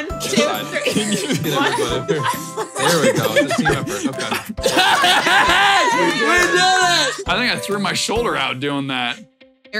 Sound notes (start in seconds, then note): 4.1 laughing; 4.9 laughing and cheering